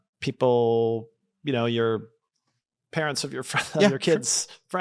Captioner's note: laughs